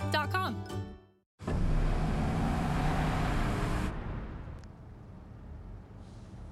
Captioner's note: SFX: Engine sound